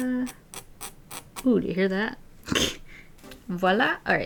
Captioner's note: pen nib scratches